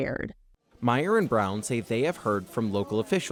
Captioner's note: voice-over